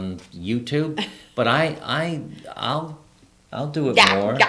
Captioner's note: laughs